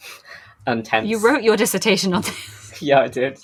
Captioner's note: laughing